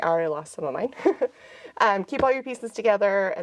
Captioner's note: chuckles